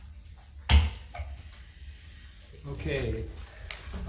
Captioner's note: gavel bangs